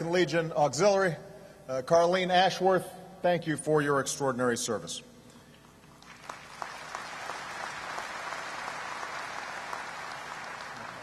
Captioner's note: applause